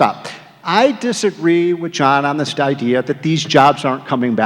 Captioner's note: none